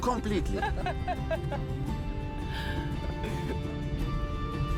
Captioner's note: Fuad and Nadia laugh